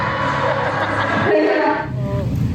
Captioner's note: background laughter